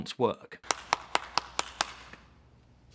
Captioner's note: “clap”